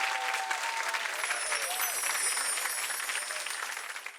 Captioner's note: bells chime